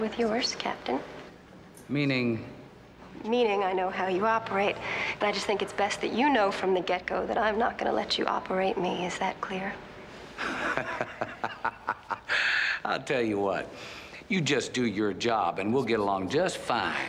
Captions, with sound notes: And I'm more than familiar with yours, Captain. - Meaning? - Meaning I know how you operate, and I just think it's best that you know from the get-go that I am not gonna let you operate me. Is that clear? - (laughing) I'll tell you what. You just do your job and we'll get along just fine.